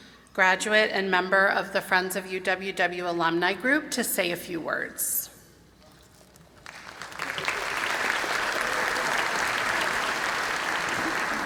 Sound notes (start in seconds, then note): 6.6 applause